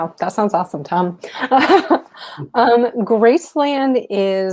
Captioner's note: chuckling